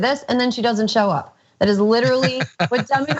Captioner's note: laugh